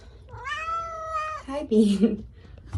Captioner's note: long meow